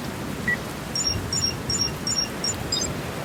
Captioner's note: device beeping